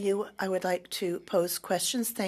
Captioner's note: speaking French